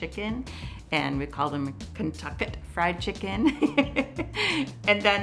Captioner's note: laughs